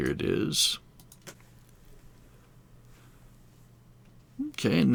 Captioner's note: silence